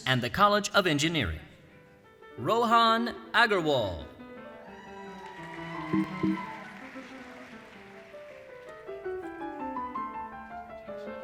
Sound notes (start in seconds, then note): 4.6 cheering; 5.8 soft piano music